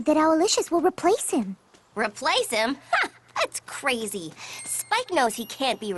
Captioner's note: none